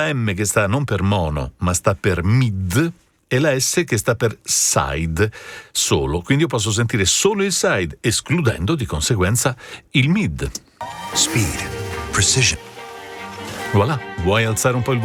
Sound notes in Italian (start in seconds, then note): 11.1 Applauso